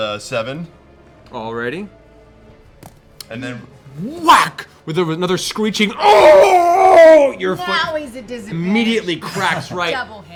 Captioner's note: whack; howls in pain